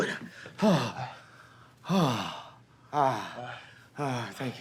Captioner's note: grunting